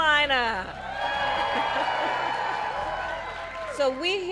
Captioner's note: applause